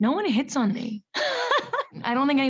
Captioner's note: Camila laughs